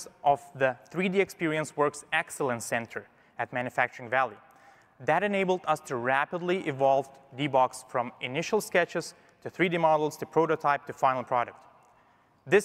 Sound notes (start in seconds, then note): none